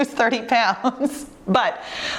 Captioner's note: chuckling